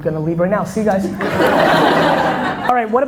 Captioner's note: audience laughter